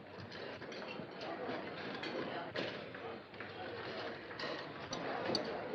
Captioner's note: restaurant noises